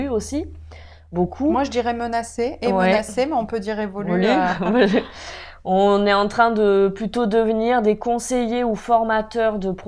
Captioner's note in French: rire